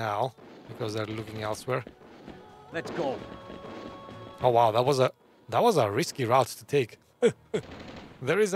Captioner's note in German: Lacht